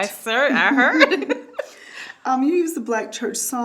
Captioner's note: both giggling